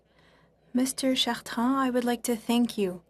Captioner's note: speaking French